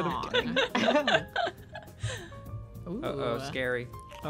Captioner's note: laughing